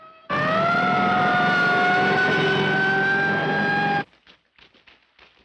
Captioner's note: sirens blaring; engines rumbling; footsteps echoing